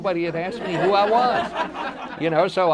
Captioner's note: audience laughter